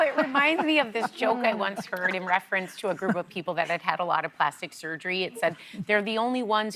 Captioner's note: laughter